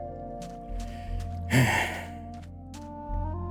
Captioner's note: sigh